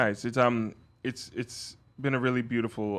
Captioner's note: none